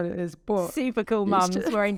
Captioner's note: laughing